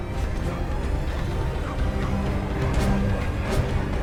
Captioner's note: tense music; dogs barking